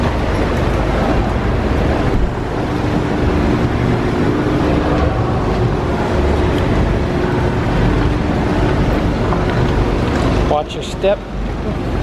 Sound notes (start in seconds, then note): none